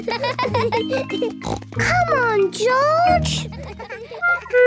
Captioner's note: laughs; snort